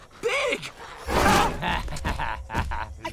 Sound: laughing

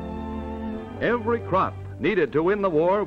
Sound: voiceover

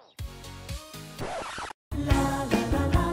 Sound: record scratching; elevator music

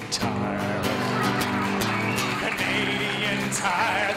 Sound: laughter and applause

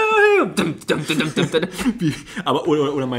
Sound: laughs

